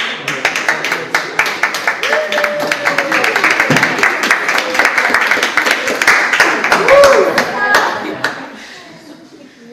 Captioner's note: audience applauds